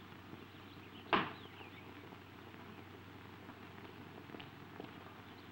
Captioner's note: screen door slamming